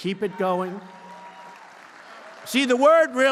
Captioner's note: applause